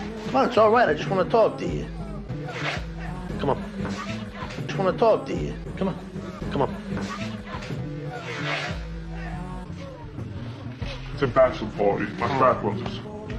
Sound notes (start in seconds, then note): 2.5 shoes scraping against the floor; 7.8 shoes scraping against the floor, slowed and amplified; 11.5 low-pitched